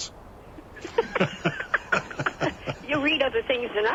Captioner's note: both laugh